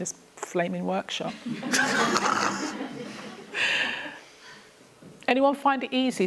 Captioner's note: laughter